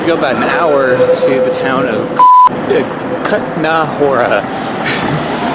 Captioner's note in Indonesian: toot